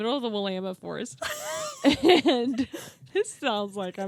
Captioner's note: both laughing